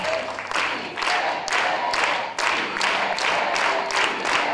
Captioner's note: crowd chanting/clapping